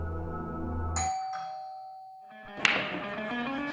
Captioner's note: doorbell chimes; upbeat rock music plays